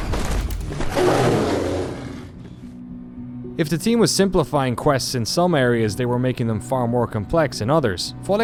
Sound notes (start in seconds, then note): 0.8 deathclaw roaring